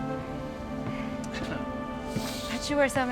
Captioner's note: Tommy laughs out of breath